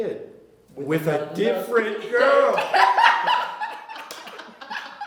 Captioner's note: laughter